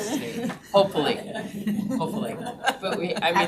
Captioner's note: members laughs